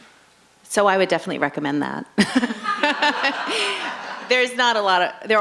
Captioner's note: laughs